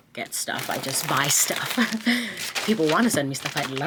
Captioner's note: bag crinkling; chuckles